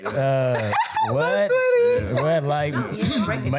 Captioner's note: laughing